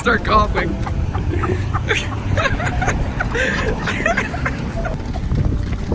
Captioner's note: laughter and coughing